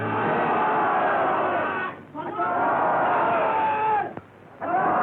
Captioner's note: shouting